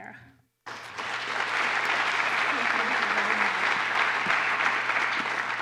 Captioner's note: applause